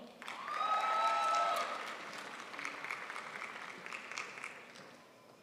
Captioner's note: crowd applauds